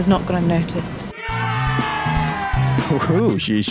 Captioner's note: cheering